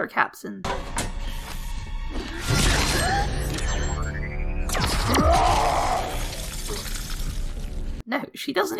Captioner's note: fight noises!